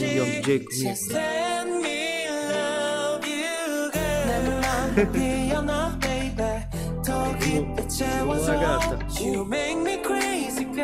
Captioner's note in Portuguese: Risos